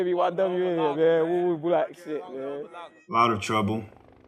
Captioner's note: all chattering